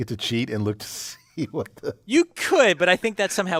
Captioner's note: laugh